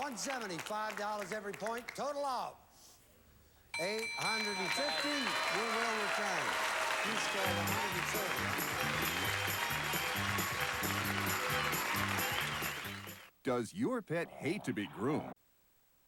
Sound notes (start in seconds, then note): 9.1 audience applauding